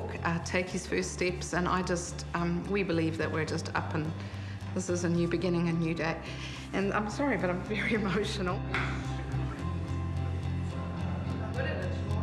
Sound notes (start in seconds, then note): 6.5 sobs; 10.0 rising music